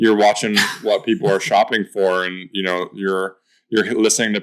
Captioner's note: chuckles